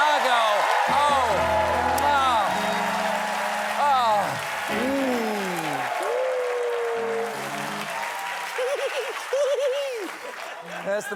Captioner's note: cheers and applause